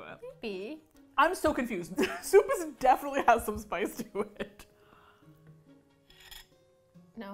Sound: laughing

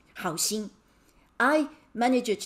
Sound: speaking in Mandarin

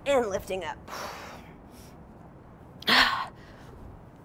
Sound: labored breathing

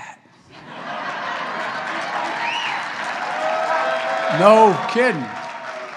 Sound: laughter and applause

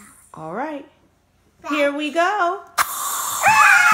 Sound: voiceover; playful screaming

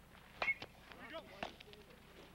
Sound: bat cracking

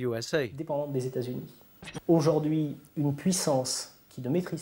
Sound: French spoken audio

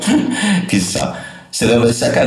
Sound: laughter

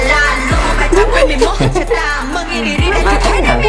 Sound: laughing

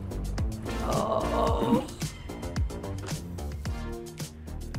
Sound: upbeat music; groaning

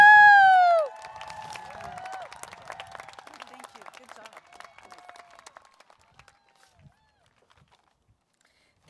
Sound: applause, Cheering

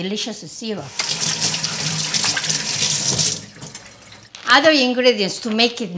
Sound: water running

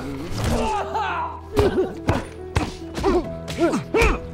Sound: groaning

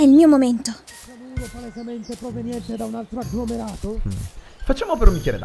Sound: angry noises in the background

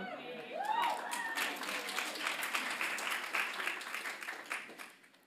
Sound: audience applauds

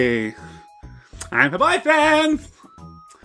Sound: stereotypical gay man voice

